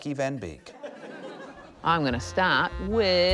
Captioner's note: laughter